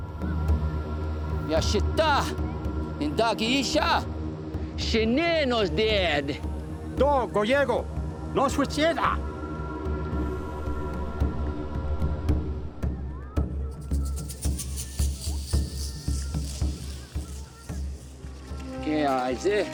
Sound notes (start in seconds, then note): 2.5 speaking native language; 8.5 responds in native language; 11.2 tense music